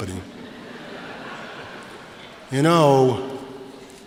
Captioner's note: laughter